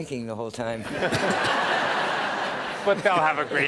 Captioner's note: laughter